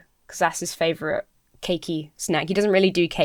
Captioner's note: none